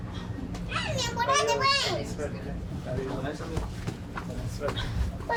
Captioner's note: speaking in a foreign language